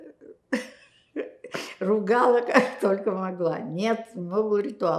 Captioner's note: laughing